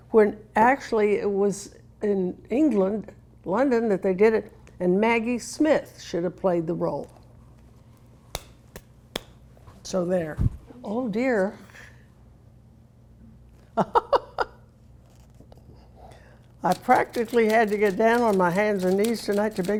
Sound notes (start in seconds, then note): 8.3 hands clapping; 13.7 Carol laughing